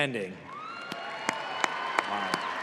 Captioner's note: audience applauding